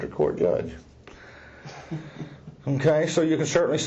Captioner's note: laughing